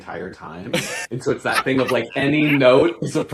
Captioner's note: laughing